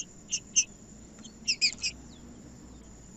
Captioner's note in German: trinca ferro cantando